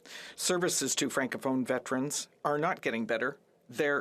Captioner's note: speaking French